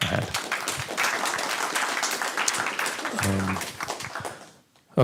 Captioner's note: applause